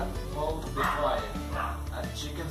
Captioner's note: guau guau